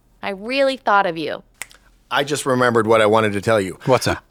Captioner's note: fingers snap